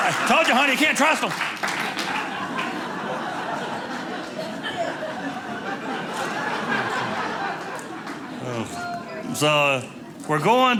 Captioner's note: audience laughing; audience laughing